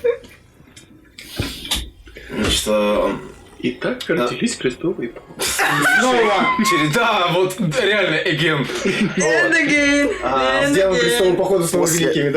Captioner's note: laughing